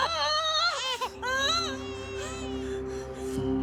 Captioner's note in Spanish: Gritos